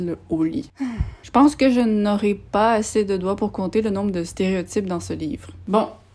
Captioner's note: sigh